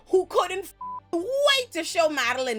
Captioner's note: beep